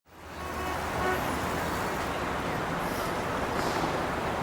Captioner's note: traffic sounds